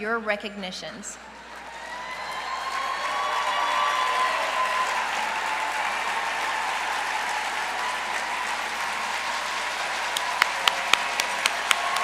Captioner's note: applause